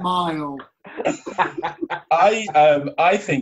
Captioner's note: laughter